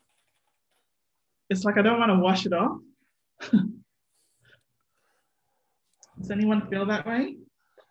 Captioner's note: chuckles